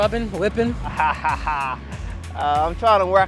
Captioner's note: laughs